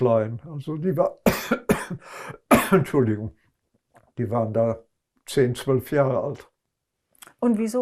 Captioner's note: coughing